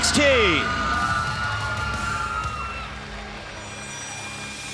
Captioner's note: crowd cheering